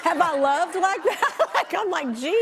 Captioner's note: laughs